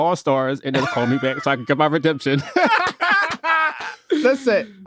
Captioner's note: all laughing